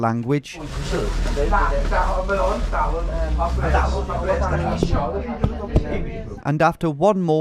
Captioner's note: patrons speak in Welsh